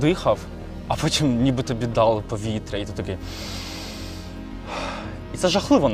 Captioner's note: breaths in and out